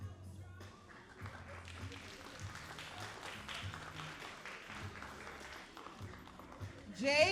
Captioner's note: all applauding